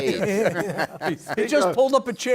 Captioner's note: laughter